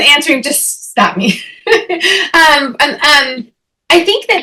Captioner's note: chuckles